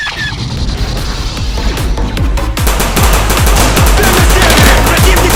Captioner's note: blaster firing; machine guns firing; angry Russian yelling while guns fire